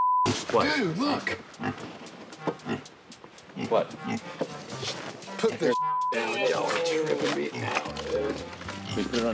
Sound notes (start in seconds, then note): 1.3 pig snorting